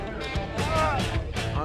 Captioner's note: yells